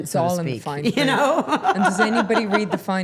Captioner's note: laughing